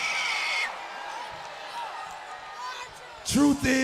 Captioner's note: crowd cheering